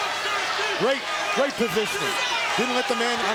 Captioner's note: crowd cheering